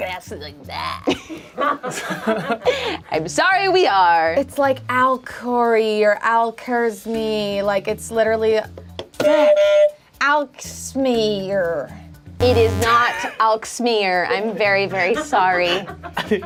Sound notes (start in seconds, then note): 1.3 group laughs; 12.4 buzzer honks